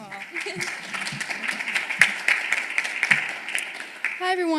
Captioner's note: applause